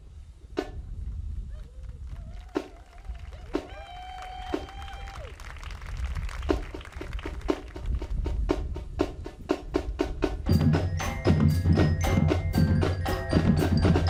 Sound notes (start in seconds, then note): 3.9 audience applauding; 9.5 upbeat drumline music